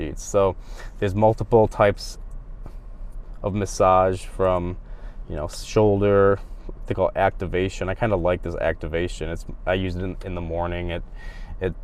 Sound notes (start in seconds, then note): none